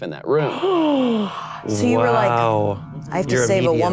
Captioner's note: gasps